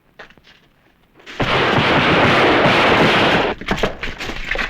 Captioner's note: gunfire